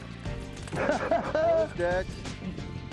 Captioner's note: laughs